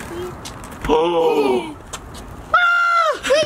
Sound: giggles

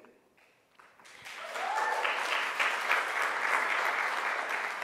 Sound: crowd applauds

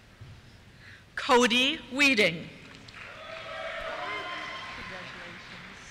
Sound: cheers

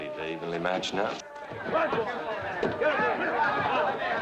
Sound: patrons clamoring

